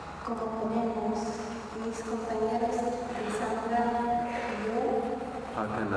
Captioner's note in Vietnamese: Tiếng Tây Ban Nha